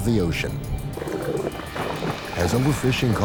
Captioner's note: murky bubbling